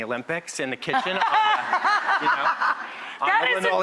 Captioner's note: laughter